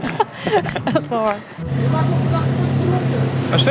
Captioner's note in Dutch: lachen